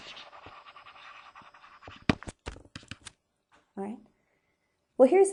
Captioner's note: stylus writing on board